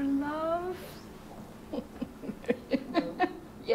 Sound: woman is laughing

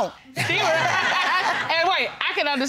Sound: all laughing

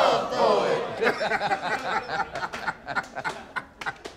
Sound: laughs

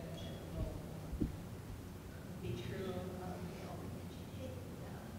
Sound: speaking quietly off mic

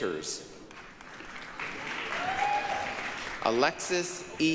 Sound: applause, cheering

